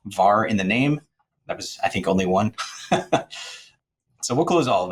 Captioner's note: chuckles